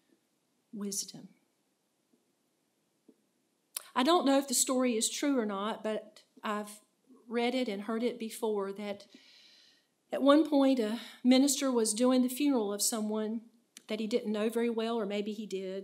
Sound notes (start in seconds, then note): none